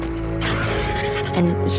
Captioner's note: dinosaurs roaring